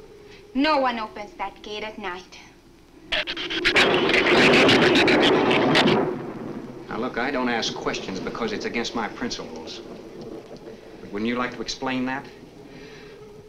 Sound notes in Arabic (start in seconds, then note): 2.9 تصفيق الرعد; 3.1 ثرثرة الزبابة